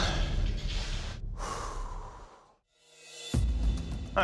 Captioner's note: exhales